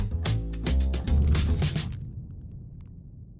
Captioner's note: paper rustling